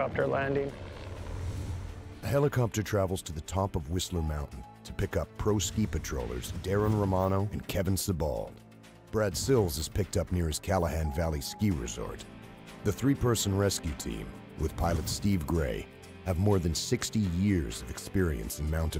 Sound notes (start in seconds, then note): 14.5 voiceover